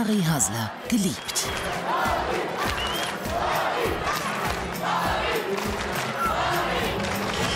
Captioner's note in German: Zuschauer rufen und klatschen